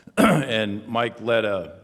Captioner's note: clears throat twice